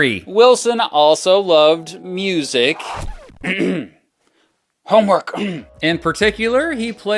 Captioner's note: coughs